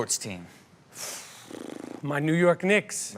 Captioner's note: blows raspberry